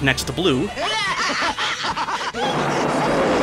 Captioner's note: clip sound: menacing laughing, thunder